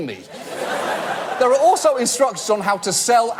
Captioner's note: audience laugh